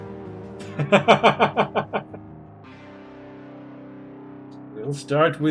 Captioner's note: laughs